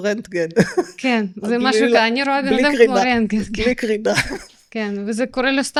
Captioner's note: laughter